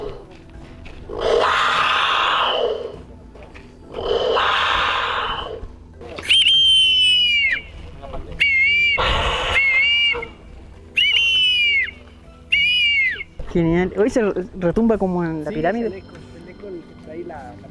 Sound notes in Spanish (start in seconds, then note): 0.0 Sonido de Jaguar; 6.8 Sonido de Águila